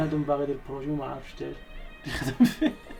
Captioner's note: laughing